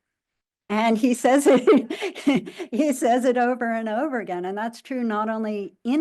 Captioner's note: laughing